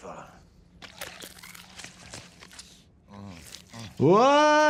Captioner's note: body squelches